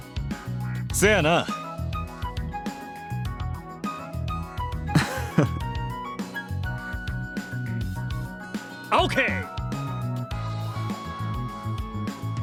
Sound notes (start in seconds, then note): 4.9 chuckle